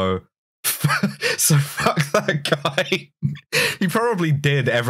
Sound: laughing

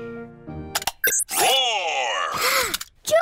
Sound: gasps

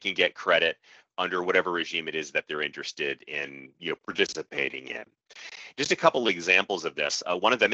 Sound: audio skips forward

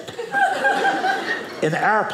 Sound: audience laughing

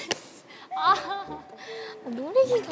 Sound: and sighs

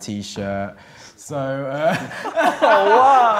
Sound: laughing

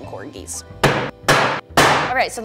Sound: tapping

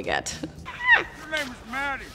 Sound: Hailee squeals

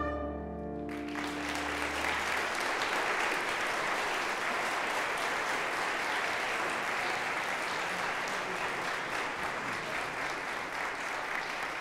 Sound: applause

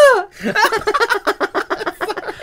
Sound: laughter

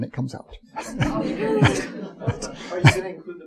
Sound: audience chuckling

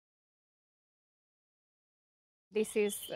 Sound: no audio

